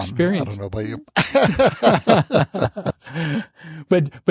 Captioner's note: laughter